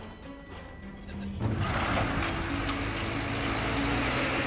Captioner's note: tank revving